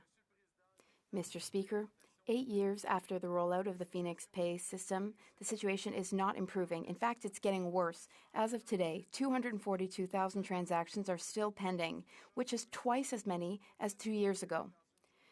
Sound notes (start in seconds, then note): 1.7 speaking French